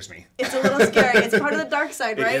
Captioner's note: laughs